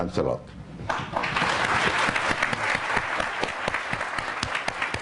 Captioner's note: applause